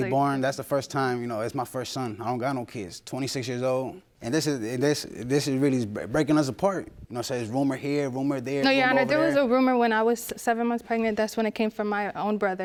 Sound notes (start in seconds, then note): 3.8 stammers